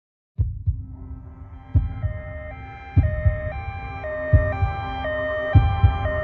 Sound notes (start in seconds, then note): 0.3 heart beating; 1.1 siren wailing